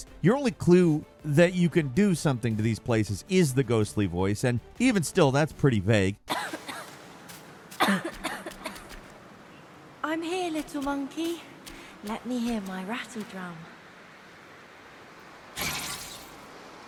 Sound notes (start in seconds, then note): 7.7 character coughing; 10.1 ghostly Voice